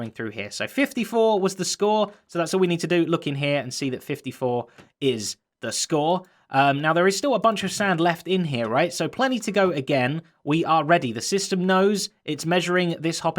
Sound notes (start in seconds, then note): none